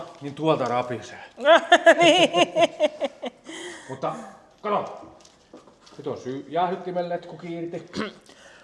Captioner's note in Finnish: naurua